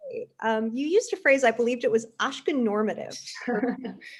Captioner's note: laughs